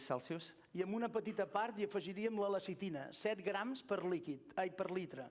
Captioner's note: non-english speech